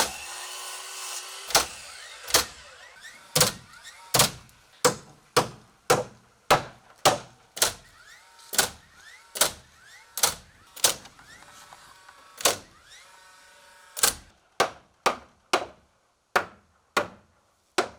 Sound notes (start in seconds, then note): 0.3 nail gun popping; 4.8 hammer banging; 9.2 nail gun popping; 15.0 hammer banging